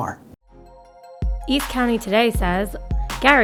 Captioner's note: voiceover